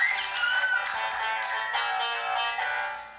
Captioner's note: audience applauding; upbeat music